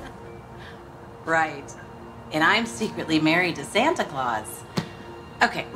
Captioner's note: laughing